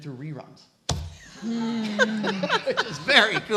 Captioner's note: laughing